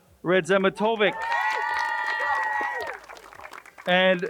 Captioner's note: crowd cheers and applauds